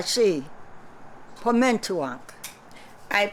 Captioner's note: non-english speech